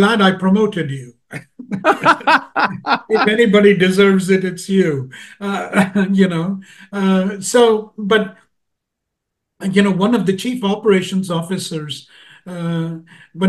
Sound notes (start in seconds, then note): 1.3 laugh; 5.2 laugh